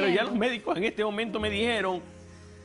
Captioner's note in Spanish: Hablan al unísono